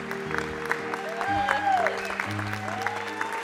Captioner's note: applause; cheering